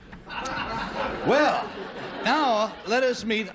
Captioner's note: laughter